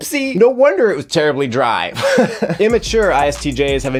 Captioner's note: laughs